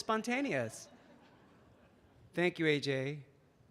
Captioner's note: audience laughing